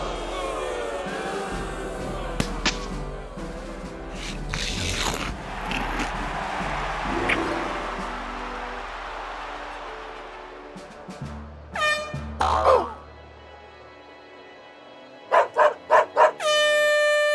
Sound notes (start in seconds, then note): 4.2 crunching; 11.7 air horn sounds; 11.7 groans; 15.3 dog barks; 16.4 air horn blares